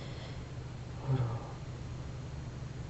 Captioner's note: foregin language